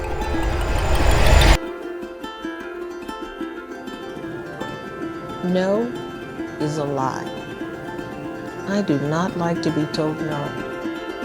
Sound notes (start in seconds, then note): 0.0 whooshing